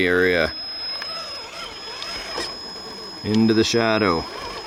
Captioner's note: engine roaring